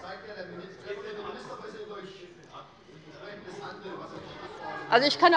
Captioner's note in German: Anhaltende Unruhe